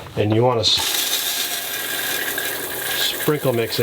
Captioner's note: water rushing